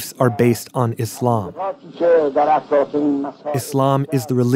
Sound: Speaking Farsi

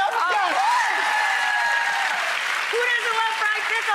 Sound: audience cheers

